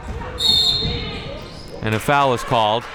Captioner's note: whistle being blown